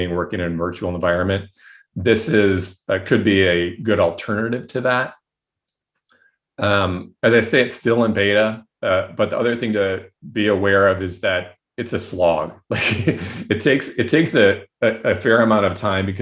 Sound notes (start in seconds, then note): 12.6 chuckles